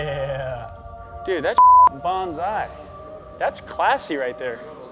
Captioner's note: beep